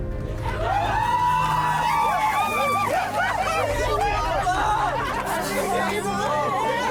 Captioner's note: cheering